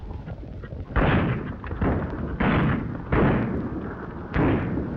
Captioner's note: gunshots banging